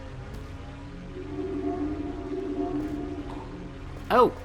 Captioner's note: linking sounds